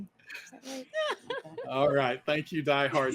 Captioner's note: all chuckling